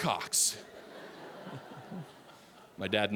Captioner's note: audience laughing